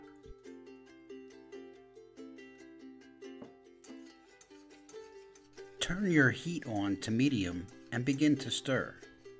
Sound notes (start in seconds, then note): 0.2 gentle music; 3.8 clattering gently